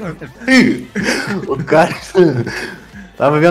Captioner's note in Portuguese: risos